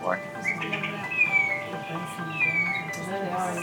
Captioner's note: bird calling